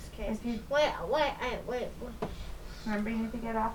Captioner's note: kid talking